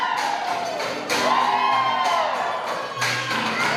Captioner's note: applause